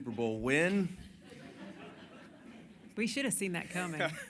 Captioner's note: laughter